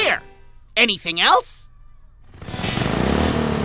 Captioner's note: engine rumbles